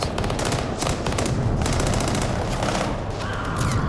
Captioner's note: gunfire